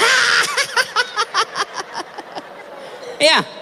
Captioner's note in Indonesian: tertawa